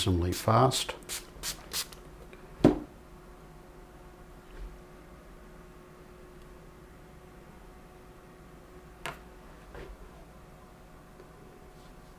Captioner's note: silence